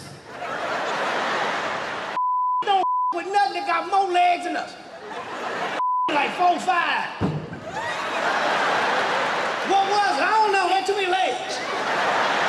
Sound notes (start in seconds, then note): 0.2 laughter; 7.5 laughter